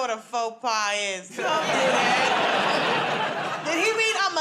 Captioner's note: laughter